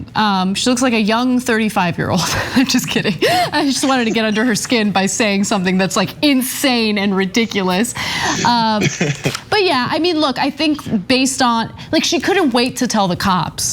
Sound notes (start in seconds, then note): 2.3 laugh; 8.4 laugh